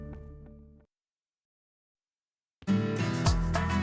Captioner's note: silence